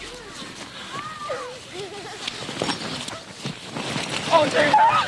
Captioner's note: children playing and laughing